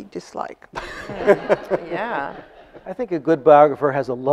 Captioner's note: audience laughs